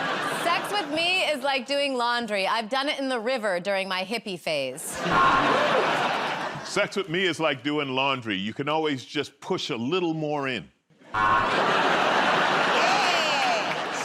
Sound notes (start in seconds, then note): 5.1 buzzer; 11.1 buzzer